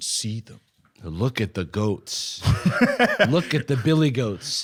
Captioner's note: laughs